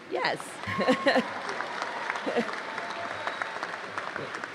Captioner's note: applause